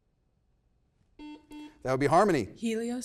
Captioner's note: double beep